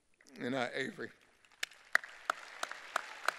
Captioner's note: applause